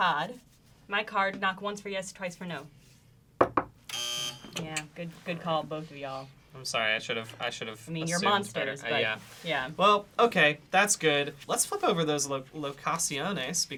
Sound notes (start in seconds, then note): 3.4 knocks twice; 3.9 buzzing